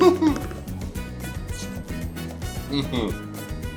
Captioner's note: laughs